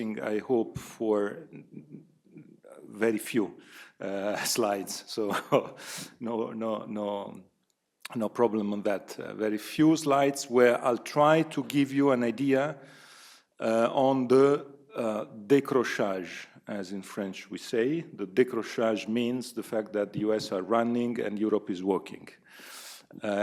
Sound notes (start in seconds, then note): 14.1 speaks in French; 18.0 speaks in French